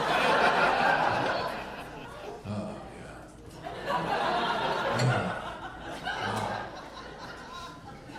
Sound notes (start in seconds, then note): 3.6 audience laughing